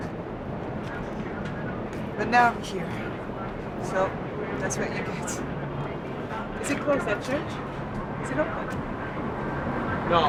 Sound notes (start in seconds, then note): none